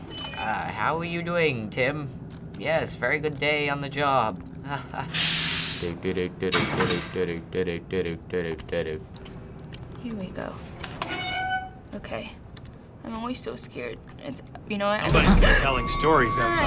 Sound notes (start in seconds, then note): 4.6 weak chuckle; 5.8 humming; 10.8 door creaks; 15.4 startled gasp